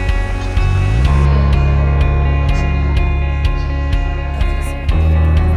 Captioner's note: upbeat music; crowd murmuring